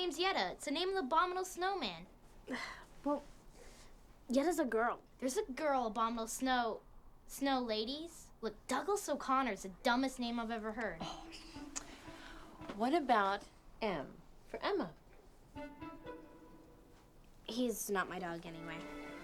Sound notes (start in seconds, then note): 2.1 scoffs